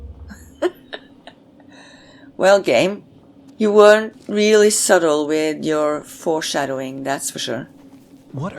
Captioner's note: chuckles